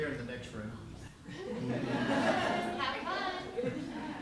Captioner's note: laughter